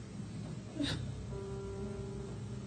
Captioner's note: crying